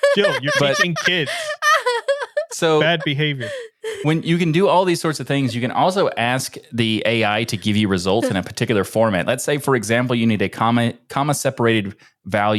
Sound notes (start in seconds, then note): 0.0 laughing